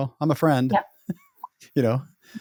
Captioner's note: laughs